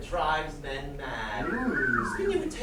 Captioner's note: whistling